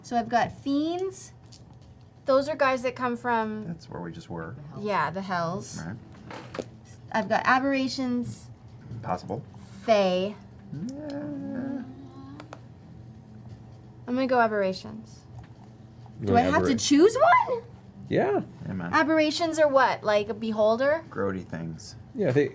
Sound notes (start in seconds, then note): 10.6 uncertain noises